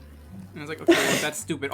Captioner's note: snort laugh